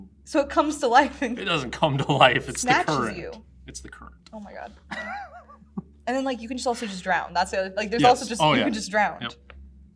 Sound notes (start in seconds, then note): 4.9 laughs